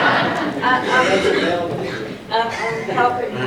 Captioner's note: audience laughs